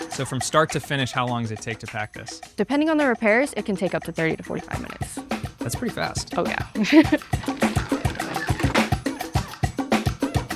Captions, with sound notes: - So from start to finish, how long does it take to pack this? - Depending on the repairs, it can take up to 30 to 45 minutes. - That's pretty fast - Oh, yeah (chuckles). (lively rhythmic music)